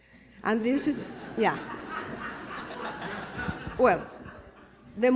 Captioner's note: laughter